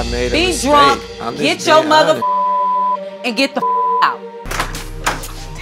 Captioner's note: beep